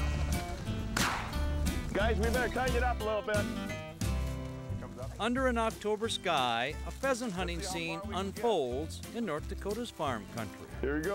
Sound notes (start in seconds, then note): 0.9 gun shot